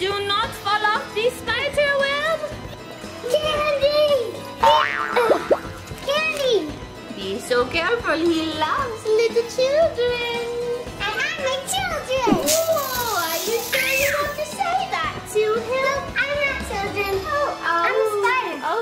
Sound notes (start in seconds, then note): 4.8 bounces; 12.4 spider hisses